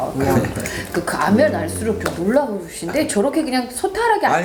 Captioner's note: clap clap